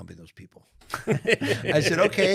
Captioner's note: panelists laughing